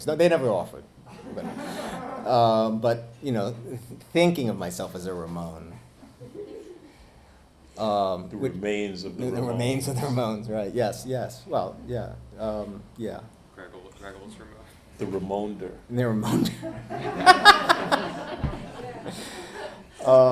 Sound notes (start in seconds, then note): 1.1 audience laughing; 16.2 laughs; 16.5 audience laughing